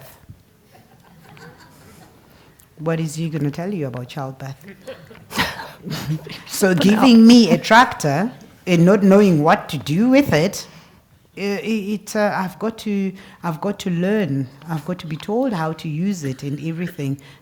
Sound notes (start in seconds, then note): 0.7 laugh; 4.6 laugh